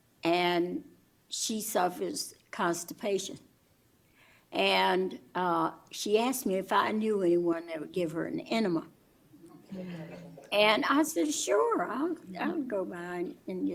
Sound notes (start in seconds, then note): 9.8 laughter